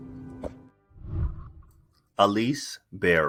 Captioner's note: whooshing